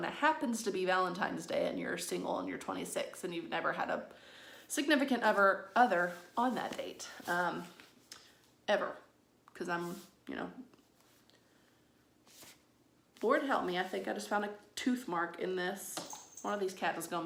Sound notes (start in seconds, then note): 11.6 awkward pause